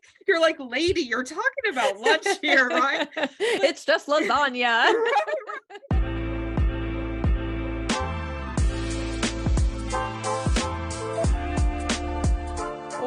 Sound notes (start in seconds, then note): 1.6 laughs; 4.6 laughter